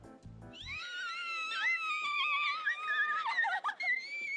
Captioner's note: both squealing